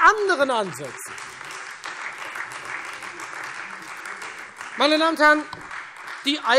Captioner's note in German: Beifall Freie Demokraten und vereinzelt AfD